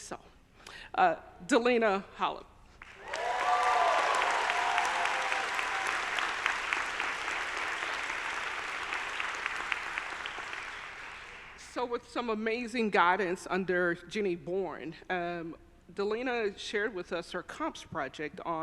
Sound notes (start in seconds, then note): 2.8 audience applauding; 2.9 audience cheering